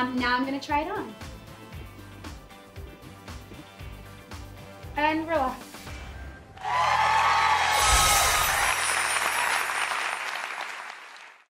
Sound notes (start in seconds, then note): 1.9 upbeat music; 6.6 audience applauding